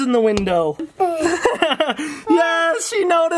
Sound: chuckles

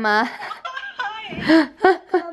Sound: laughing

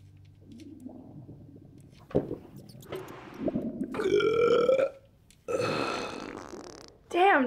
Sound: Bull's stomach turns more as he farts and belches again

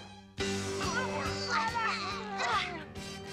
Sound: grunting

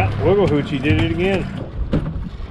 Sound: fish thrashing; clanking

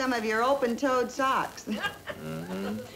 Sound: background laughter

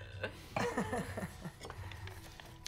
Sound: Mel fake laughs

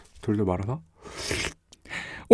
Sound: slurp

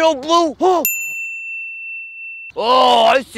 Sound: bell dings

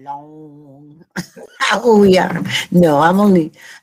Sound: speaks in foreign language

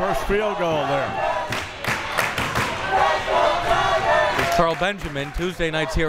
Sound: crowd members chanting

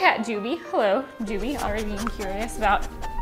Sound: nose sniffing

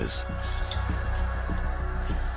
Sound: screeches

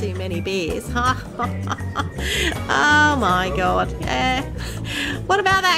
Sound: laughs

